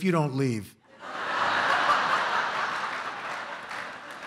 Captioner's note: laughter